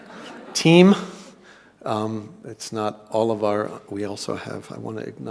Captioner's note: laugh